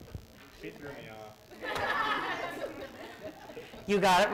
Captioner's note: laughter